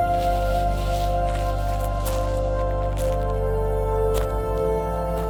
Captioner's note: footsteps crunching